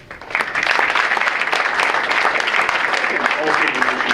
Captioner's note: audience applauds; speaker's voice drowned out by applause